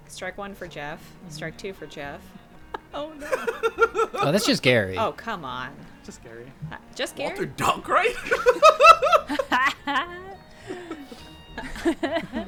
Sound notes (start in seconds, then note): 7.6 laughs; 8.2 group chuckling